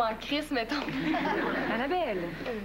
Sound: Rires

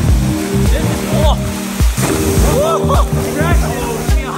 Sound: water splashing

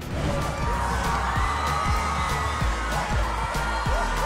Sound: crowd cheering

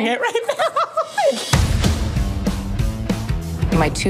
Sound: laughter

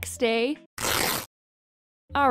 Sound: same jeans rip sound effect

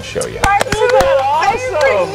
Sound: applauding

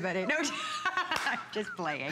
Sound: laughter

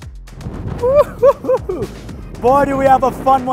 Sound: excited whooping

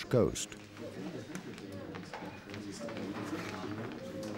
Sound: chattering

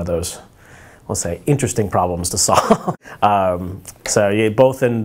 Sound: laughing

